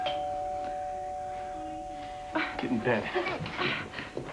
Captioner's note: doorbell rings